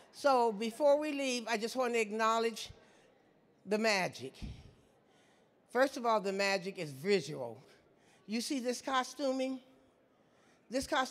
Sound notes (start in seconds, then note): none